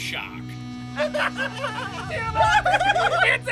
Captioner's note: laughter